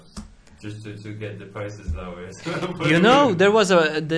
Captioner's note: laughs